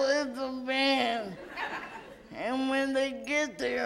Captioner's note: audience laughs